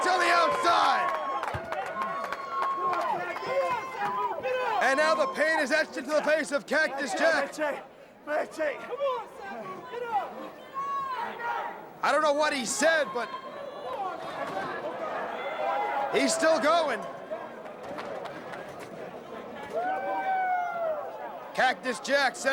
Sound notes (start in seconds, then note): 5.0 crowd cheering; 9.0 crowd chatter; 14.1 crowd chatter; 17.7 crowd cheering